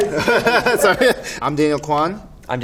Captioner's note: laughs